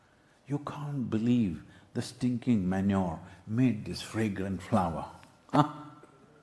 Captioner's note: few laugh